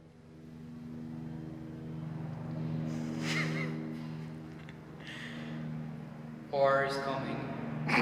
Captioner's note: listening to the airplanes to pass…the whole team laughing